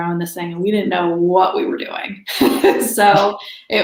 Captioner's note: laughs